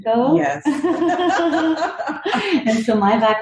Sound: laugh

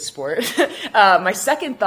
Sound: chuckles

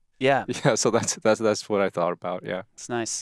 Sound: chuckles

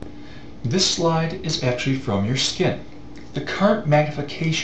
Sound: voiceover

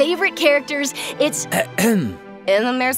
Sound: ahem

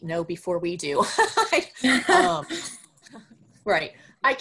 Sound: laughs

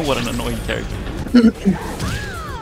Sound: clears throat

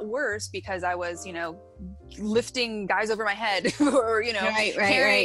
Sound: chuckles

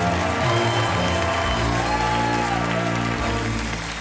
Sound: crowd cheering

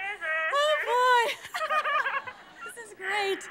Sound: laughing

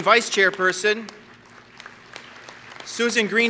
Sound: applause

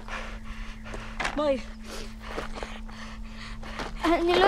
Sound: panting

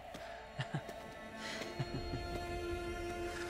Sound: laughs

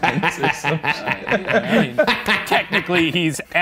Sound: laughing

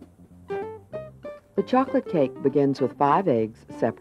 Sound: voiceover

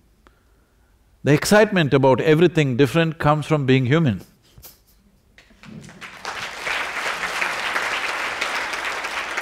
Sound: laughs/Applause

